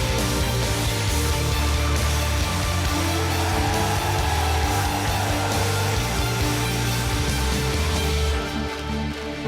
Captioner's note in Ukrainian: оплески